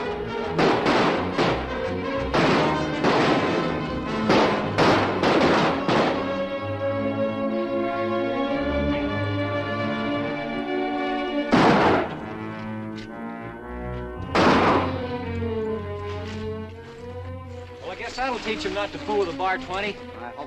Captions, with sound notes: [ HORSES GALLOPING ] [ GUNSHOTS ] I guess that'll teach them not to fool with a Bar 20. I hope so.